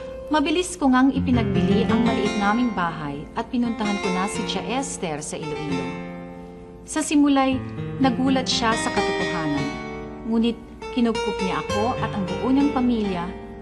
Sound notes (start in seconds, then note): none